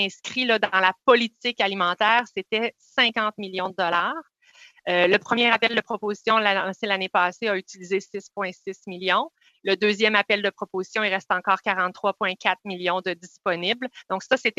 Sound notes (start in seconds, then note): 2.8 speaking French